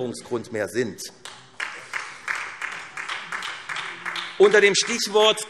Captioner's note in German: Beifall SPD